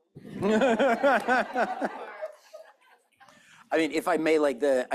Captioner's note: laughter